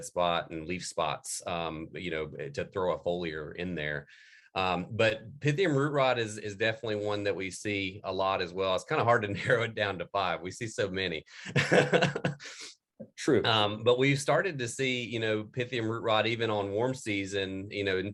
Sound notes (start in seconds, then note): 11.4 laugh